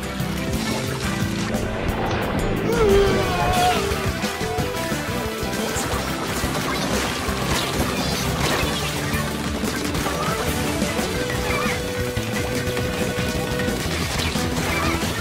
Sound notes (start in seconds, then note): 3.7 echo